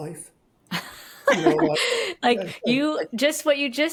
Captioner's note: laugh